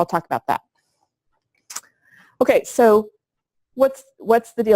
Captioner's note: pause